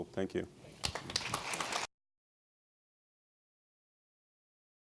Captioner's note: audience applauds